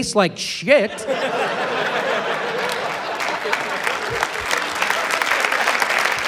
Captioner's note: applause, laughter